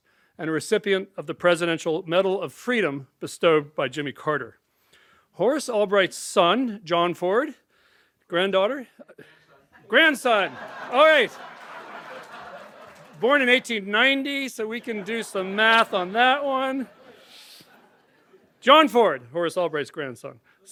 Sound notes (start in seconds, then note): 11.4 laughter